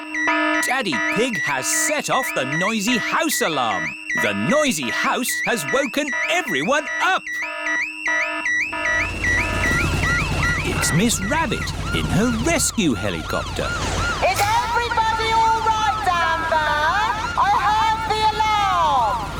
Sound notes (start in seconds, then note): 0.0 alarm blaring; 13.6 over megaphone